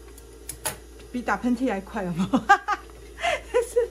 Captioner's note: ha Ha